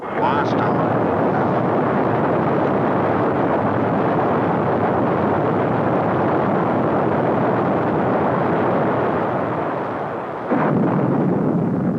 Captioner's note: super blasting noises!